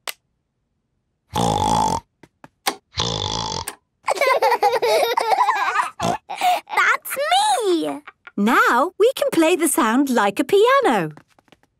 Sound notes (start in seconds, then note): 1.6 snorting; 4.0 laughter; 4.4 snorting